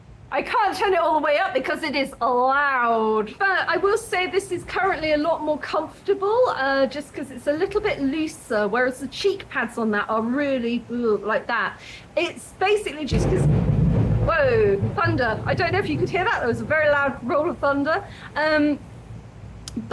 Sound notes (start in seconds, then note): 13.1 loud bang